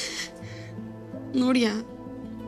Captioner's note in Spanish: Sollozos